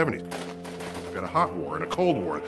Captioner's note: gun shots